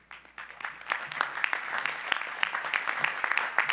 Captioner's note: applause